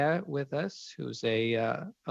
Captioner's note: speaking French